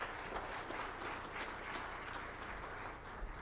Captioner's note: applause